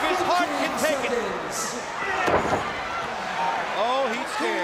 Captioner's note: crowd cheering